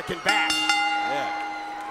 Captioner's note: bell rings